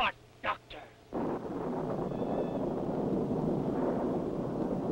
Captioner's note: thunder rumbles